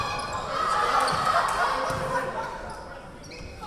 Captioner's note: yelling